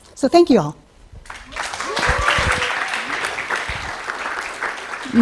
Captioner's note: applause, cheering